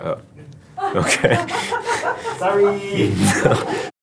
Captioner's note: chuckle